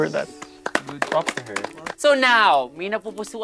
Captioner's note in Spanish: campistas aplaudiendo